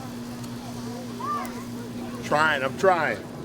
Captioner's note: indistinct chatter